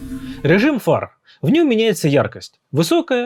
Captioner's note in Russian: none